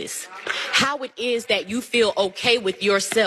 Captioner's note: applause